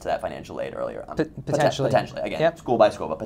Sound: voiceover

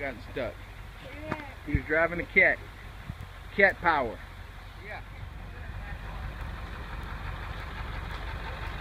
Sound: engine motor noises

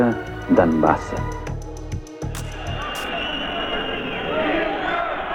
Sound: whistles and cries of the crowd

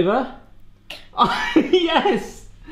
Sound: laughing

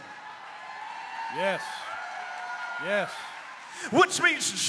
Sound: audience cheers

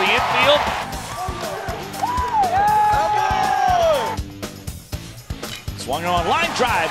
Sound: cheering

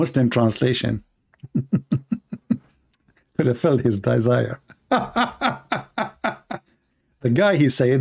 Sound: Ketawa

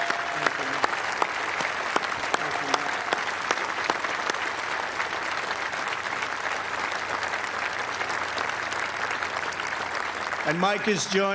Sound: applause

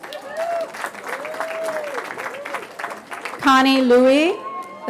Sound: cheering

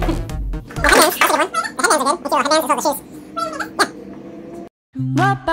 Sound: distorted audio; audio on fast forward

